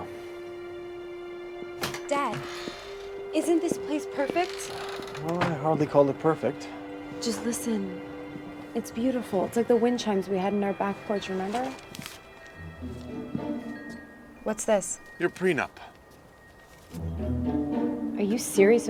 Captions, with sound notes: I'LL TAKE CARE OF HER NOW. DAD, ISN'T THIS PLACE PERFECT? WELL, I'D HARDLY CALL IT PERFECT. JUST LISTEN. [WIND CHIMES] IT'S BEAUTIFUL. IT'S LIKE THE WIND CHIMES WE HAD ON OUR BACK PORCH, REMEMBER? YOUR PRENUP? WHAT'S THIS?